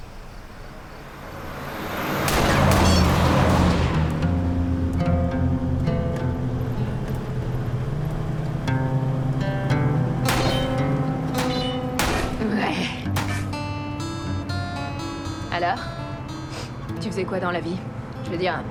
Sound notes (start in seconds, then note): 2.2 gunshots; 4.5 soft music playing